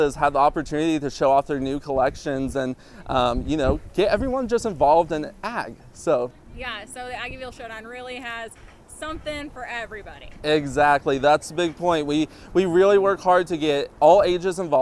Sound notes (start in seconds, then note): none